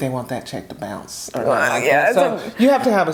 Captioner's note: groaning